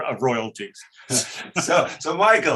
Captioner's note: giggles